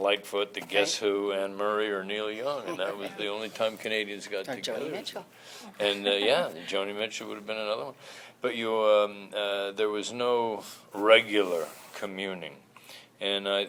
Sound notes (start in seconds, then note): 2.4 chuckles